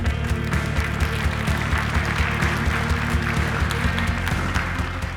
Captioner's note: applause